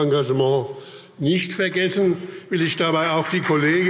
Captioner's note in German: Beifall BÜNDNIS 90/DIE GRÜNEN, CDU und vereinzelt SPD